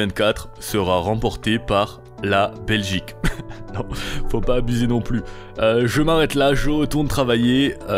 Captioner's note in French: rires